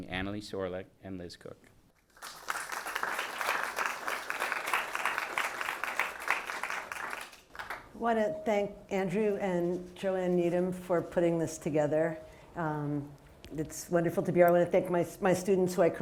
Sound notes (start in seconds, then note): 2.0 audience applauding